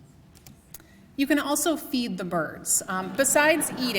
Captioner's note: laughter